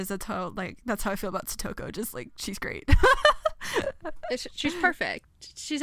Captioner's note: laughs